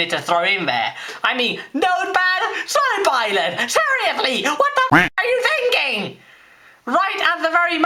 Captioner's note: quack